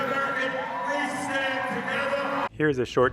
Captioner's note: people cheering